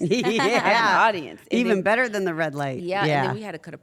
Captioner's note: laugh